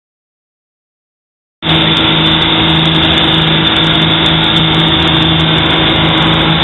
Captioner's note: boat engine humming